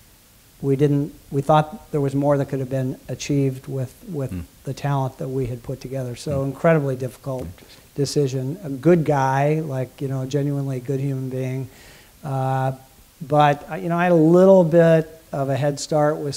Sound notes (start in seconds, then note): none